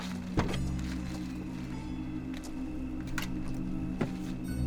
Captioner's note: door clicks